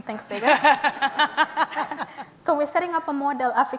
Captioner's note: audience and Nomzamo laugh